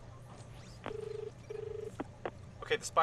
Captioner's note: call connecting; dial tone